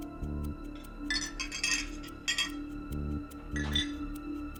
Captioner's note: ceramic clinking